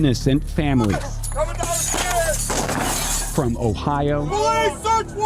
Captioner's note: glass shattering